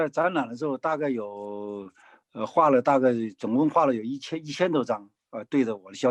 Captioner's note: speaking in foreign language